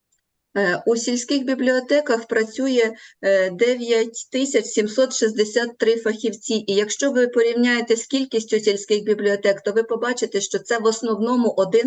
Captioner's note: foreign Language